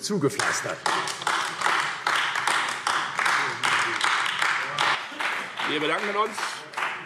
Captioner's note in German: Beifall AfD